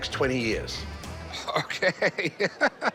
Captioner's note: laughing